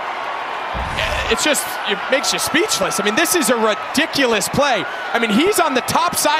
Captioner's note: stammering